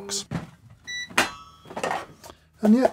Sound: machine beeps

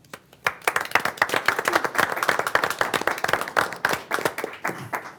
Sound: group applauding

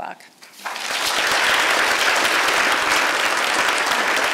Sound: audience applauds

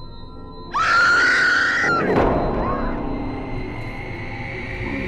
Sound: screaming

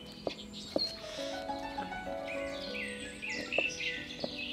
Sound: birds sing

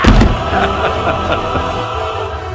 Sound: triumphant laugh

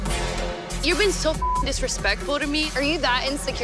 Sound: beep

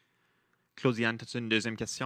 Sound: speaking French

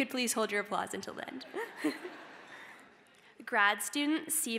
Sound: laughter

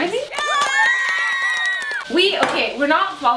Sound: cheering

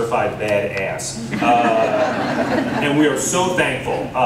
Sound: laughter

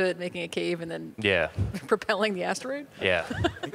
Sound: laughing; laughs

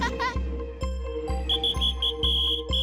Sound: laughing; whistle blowing

